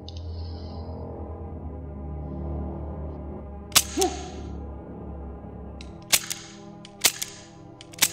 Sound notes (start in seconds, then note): 3.7 gun clicking